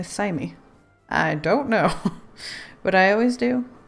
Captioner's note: laughs